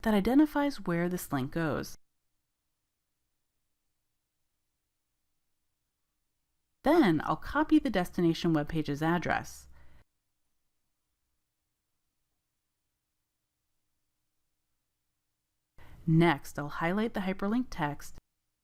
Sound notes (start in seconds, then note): 2.1 silence; 10.2 silence